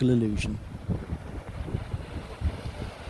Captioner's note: sound of waves crashing